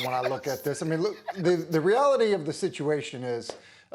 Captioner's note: laughter